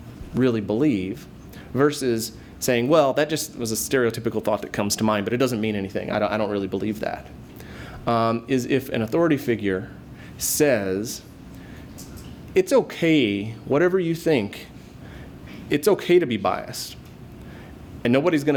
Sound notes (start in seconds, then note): none